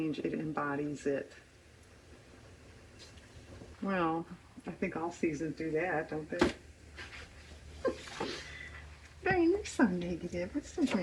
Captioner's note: laughs